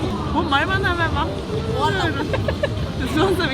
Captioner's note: she laughed